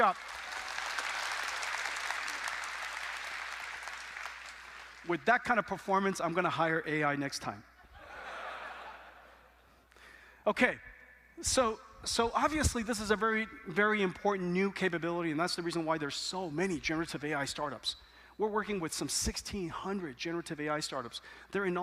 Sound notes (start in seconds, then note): 0.0 applause; 7.8 laughter